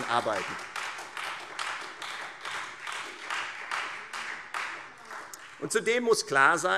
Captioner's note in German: Beifall Freie Demokraten und vereinzelt SPD